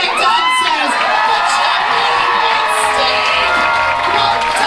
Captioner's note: crowd cheering